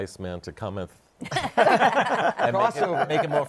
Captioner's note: laughter